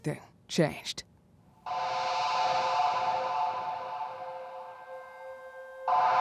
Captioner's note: muffled horn blaring